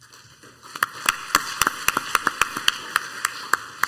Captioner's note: crowd applauds